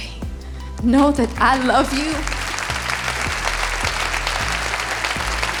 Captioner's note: audience applauding